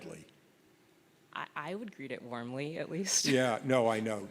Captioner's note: laughs